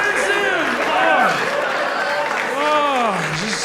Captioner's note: audience laughs